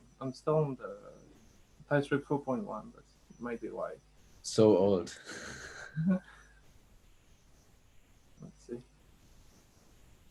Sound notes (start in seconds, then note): 5.1 chuckles